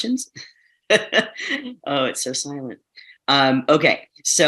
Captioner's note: chuckles